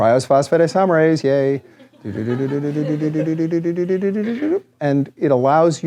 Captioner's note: laughter